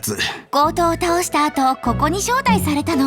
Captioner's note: sigh